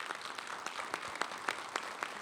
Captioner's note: attendees applauding